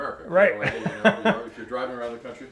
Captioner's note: laughs